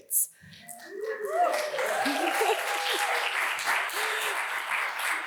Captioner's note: audience applauds